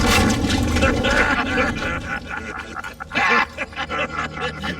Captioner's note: laughter